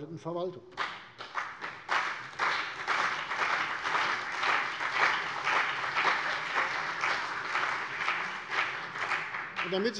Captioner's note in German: Beifall CDU und BÜNDNIS 90/DIE GRÜNEN